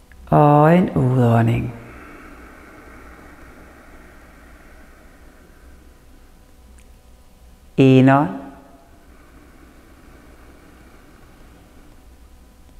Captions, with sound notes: - and an exhale (exhales) Inhale (inhales)